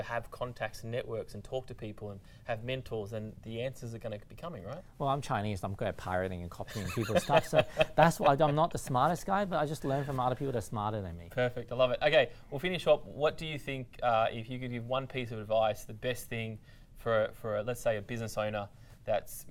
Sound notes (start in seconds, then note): 6.6 laughs